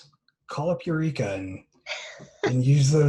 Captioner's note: laughter